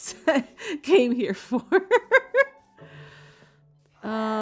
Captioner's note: laughing